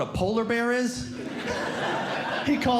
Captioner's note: audience Laughing